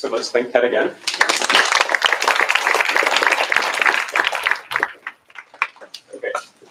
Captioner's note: applause